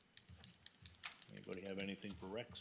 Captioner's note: pen clicking